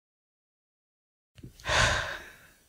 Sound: sigh

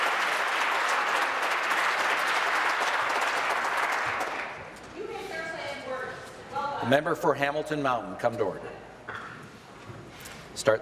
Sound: applause

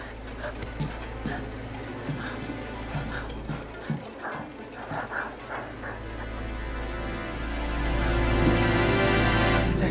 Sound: footsteps approaching

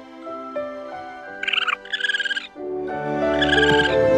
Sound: squeaking

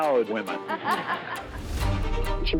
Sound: laughs

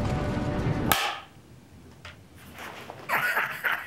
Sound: item banging; man laughing

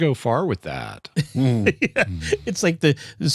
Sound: laughter

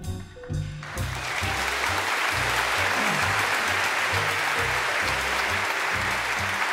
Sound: applause

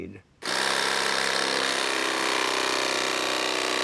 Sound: saw buzzing

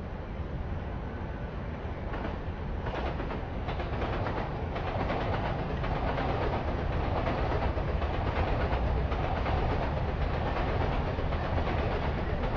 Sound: train Noises

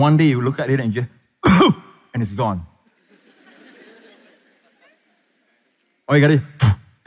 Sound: pastor coughs to demonsrate

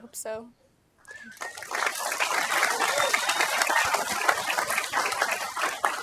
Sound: applause

